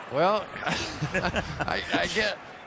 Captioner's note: laughter